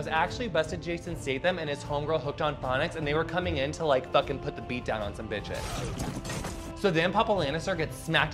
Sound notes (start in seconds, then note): 5.6 grunting; 5.7 blow landing